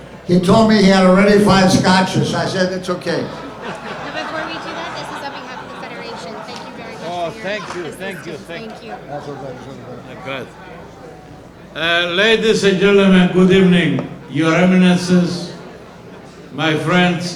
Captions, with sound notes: He told me he had already five scotches. I said it's okay. (audience laughs) Before we do that, this is on behalf of the Federation. Thank you very much for your help. Oh, thank you, thank you, thank you. Thank you. That's okay, that's okay. Thank you. Ladies and gentlemen, good evening. Your Eminances , my friends,